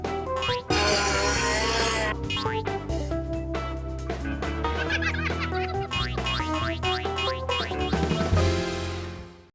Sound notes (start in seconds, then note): 0.5 buzz sawing; 4.7 laughter